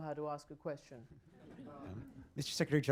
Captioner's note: laughter